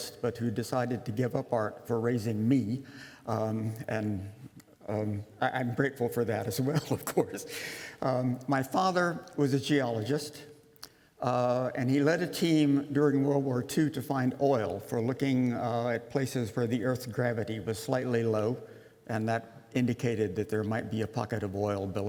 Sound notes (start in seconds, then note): 6.6 laughter